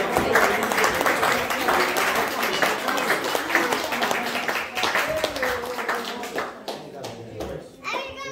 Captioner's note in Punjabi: ਤਾੜੀਆਂ